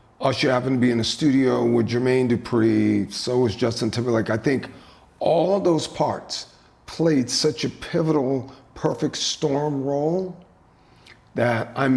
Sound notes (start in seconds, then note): none